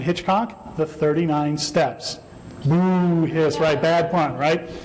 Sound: audience groans

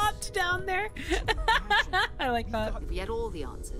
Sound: laughter

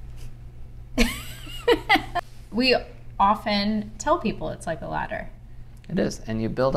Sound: laughing

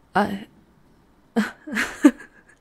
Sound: laughs, surprised

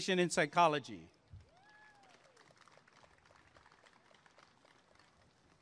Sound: applause and cheering

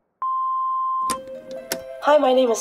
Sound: phone ringing; phone beeps; gentle mysterious music

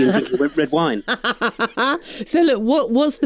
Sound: laughs

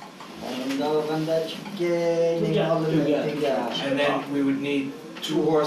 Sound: speaking uyghur

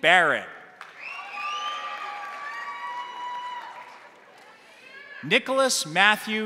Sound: crowd applauding; crowd cheering

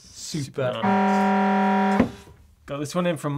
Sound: horn blowing

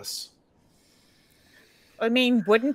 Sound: players inhaling

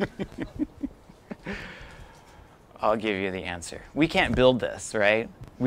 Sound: laughter

